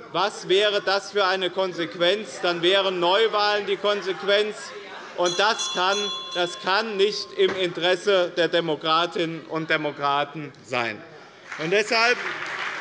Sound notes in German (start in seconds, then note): 5.2 Unruhe - Glockenzeichen des Präsidenten; 11.4 Beifall bei dem BÜNDNIS 90/DIE GRÜNEN und der CDU - Unruhe